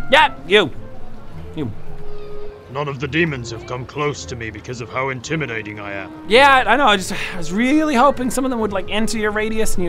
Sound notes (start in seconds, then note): 7.2 sigh